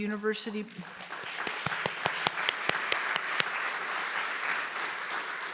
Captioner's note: audience applauding